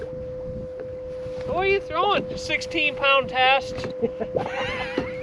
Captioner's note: laughter